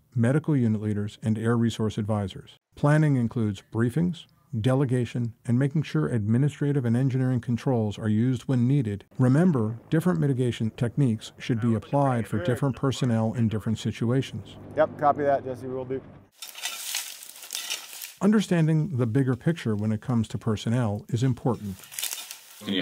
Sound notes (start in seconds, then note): 16.3 shovels scraping